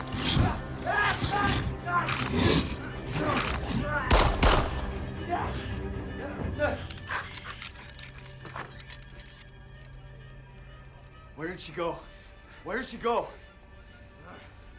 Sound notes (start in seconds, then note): 0.0 monster grumbling; 0.3 James yelling; 4.0 gun bangs; 8.2 door squeaks